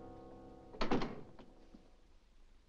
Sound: door closes

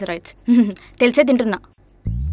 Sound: giggles

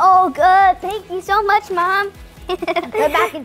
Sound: laughs

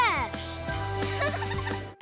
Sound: giggling

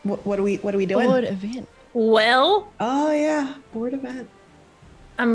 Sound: laugh

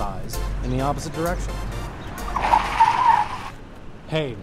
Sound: car screech

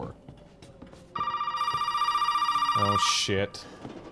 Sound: phone rings

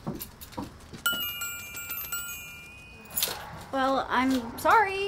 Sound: tink bells

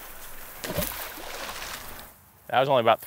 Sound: water splashing

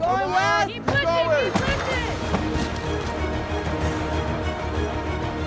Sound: yelling and cheering; dramatic music

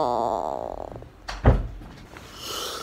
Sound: door closes

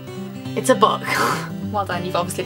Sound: laughs

